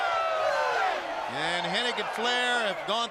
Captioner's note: crowd cheering